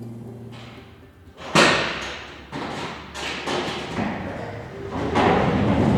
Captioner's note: hangar door opening